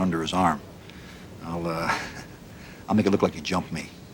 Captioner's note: chuckles